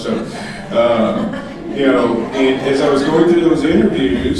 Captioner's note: audience laughing